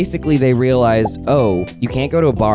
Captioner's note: text quietly popping